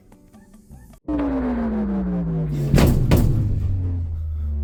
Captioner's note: elevator powers down